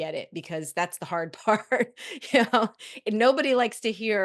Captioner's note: chuckles